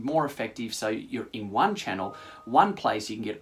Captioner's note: chime